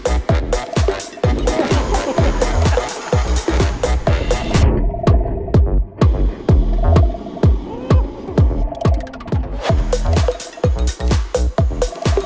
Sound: laughs

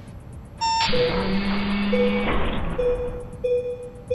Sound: beeping alarm

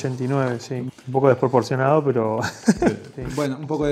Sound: ha ha ha

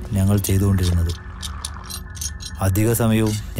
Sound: tools Sound

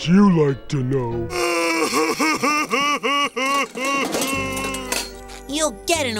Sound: crying

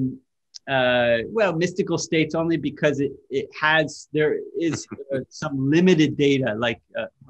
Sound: Sadhguru laughs

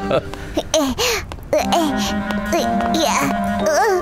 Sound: Mr. Bread laughs; Wilk moaning

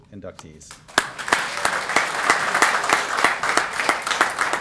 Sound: applause

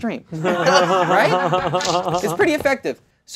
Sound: all laughing

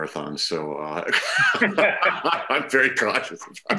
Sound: all laughing

